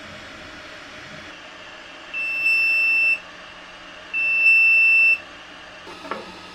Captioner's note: 3D printer beeping to notify completion